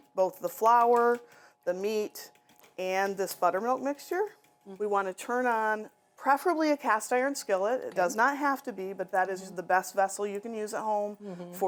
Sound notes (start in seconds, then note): none